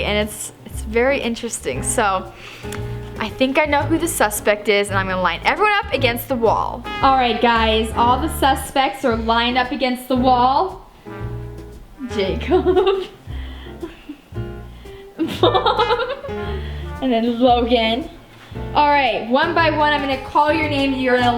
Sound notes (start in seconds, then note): 12.0 chuckles; 15.1 chuckles